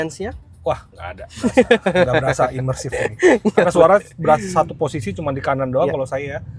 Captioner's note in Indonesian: tertawa